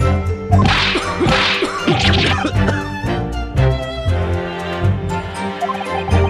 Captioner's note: cough, cough, cough